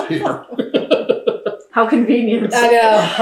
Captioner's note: laughter